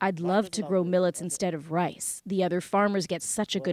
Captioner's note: speaking alternate language